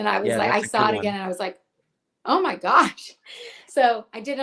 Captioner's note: laughs